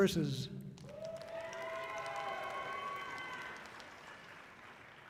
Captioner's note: audience cheering loudly